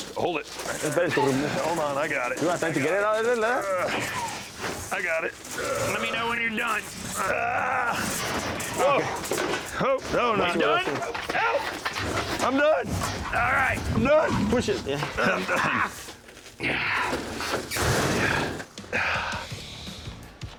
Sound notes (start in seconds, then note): 15.8 grunting; 18.2 sighs